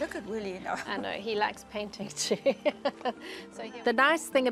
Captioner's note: laughs